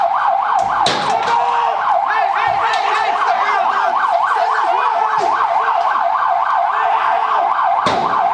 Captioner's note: medics yelling